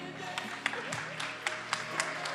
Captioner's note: attendees applauding